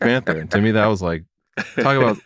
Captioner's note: laughter